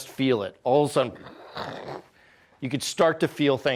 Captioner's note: imitates rumbling noise